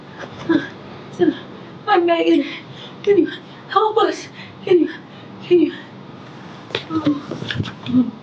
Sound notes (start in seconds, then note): 1.4 sighs; 3.1 whimpers